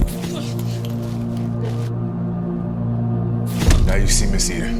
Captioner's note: bike rattles; suspenseful music; Tamir thuds